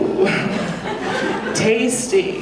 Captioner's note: audience laughing